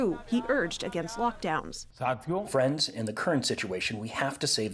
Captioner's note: through translator